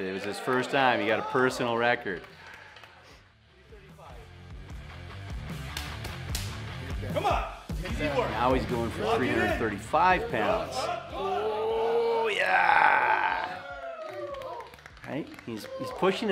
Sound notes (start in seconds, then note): 5.6 slapping